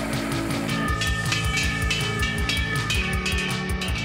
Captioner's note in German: Läuten